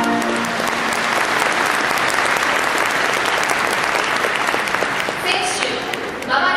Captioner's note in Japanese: 拍手